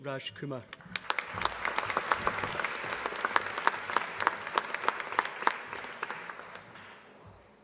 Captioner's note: applause